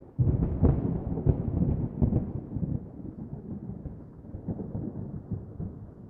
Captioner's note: sound of thunder